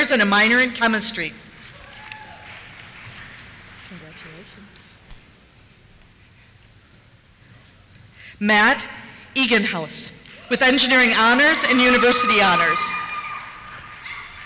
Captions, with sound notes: and a minor in Chemistry. (cheers) Congratulations. Matt Eganhouse, with Engineering Honors and University Honors. (cheers)